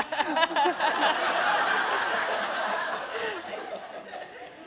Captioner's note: laughter